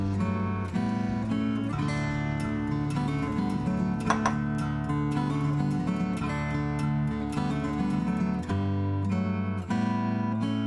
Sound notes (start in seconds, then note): 3.9 spatula pattering